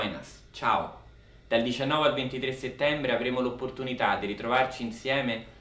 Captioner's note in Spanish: Hablando en Italiano